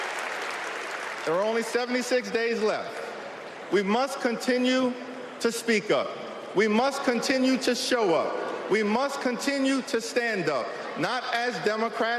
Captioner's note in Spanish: Aplausos